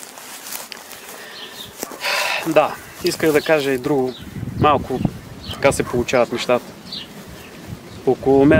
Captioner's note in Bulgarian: Въздишане